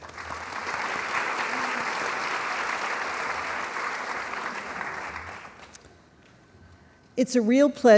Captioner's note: applause